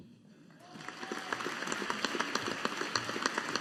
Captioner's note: audience applauding